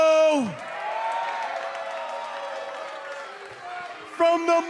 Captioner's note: cheers and applause